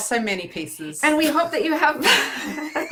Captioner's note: laughing